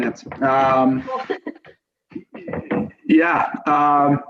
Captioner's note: laughs